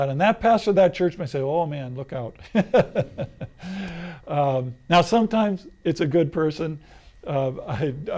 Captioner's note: laughs